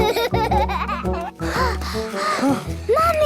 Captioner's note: children giggling; panting